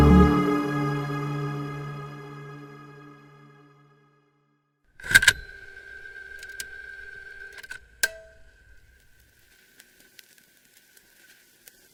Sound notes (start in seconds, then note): 5.0 mechanical whirring; 5.0 tape recorder clicks